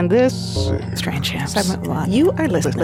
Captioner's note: graphics fuzzing